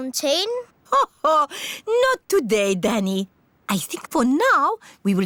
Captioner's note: laughs